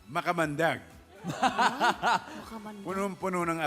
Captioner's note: laughter